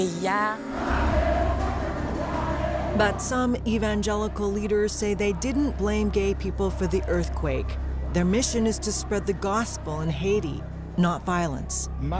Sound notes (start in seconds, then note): 0.8 all chanting in French